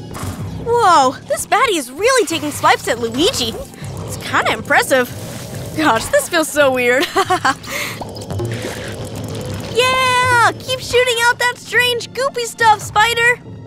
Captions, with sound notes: Whoa, this baddie is really taking swipes at Luigi! It’s kinda impressive! Gosh, this feels so weird. [laughter] Ye-a-ah! Keep shooting out that strange goopy stuff, spider!